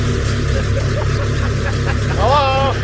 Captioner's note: both laugh